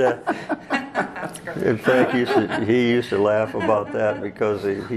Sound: all Laugh

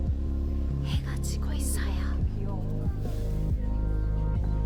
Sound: whispers

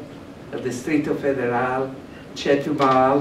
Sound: speaking spanish

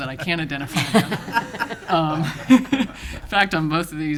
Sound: laughing

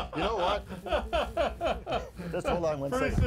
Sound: laughing

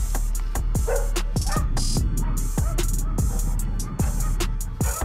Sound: dogs barking

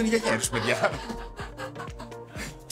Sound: laughs

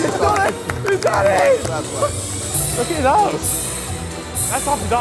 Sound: cheering and clapping

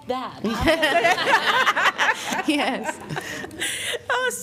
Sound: laughter

